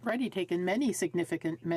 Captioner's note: speaking in French